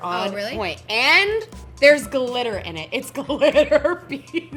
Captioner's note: laughs